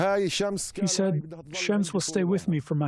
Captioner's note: through translator